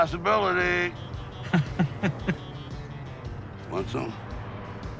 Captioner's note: Bodhi laughs